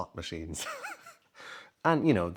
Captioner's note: chuckles